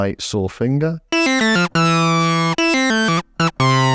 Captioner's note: beeping